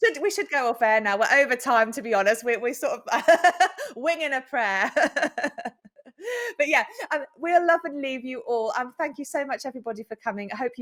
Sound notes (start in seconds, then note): 4.8 chuckles